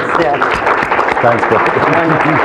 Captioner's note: applauding